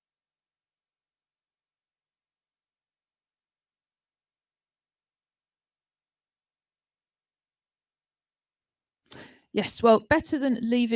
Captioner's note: muted